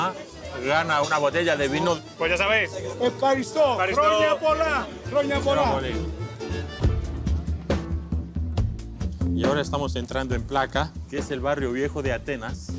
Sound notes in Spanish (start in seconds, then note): 2.8 en griego